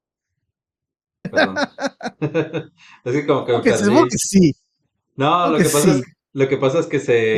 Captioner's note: laughs